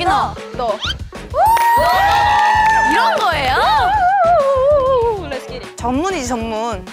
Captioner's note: Cheering